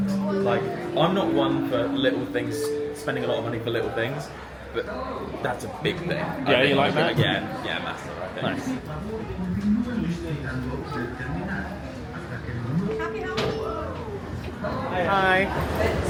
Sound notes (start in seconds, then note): 9.4 background chatter and announcements